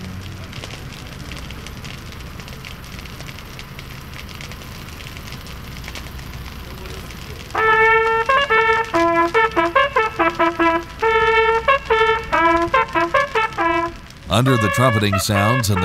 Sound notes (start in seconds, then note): 7.5 trumpets playing; 7.9 fire crackles